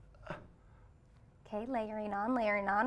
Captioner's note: grunts